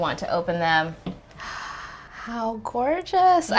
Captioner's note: gasping